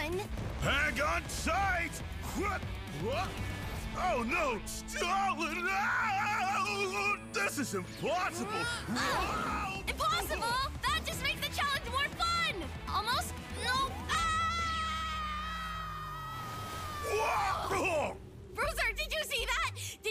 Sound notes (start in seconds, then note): 4.8 screaming; 8.4 Juno grunts; 14.0 screaming